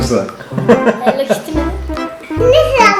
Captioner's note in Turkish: gülme sesi